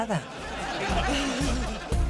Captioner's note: laughter